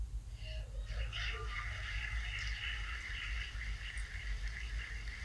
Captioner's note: applause